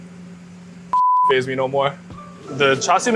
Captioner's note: beeps